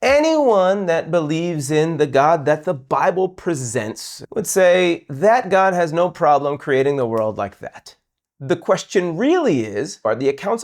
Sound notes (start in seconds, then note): 7.1 snaps